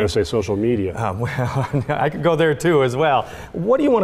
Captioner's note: chuckles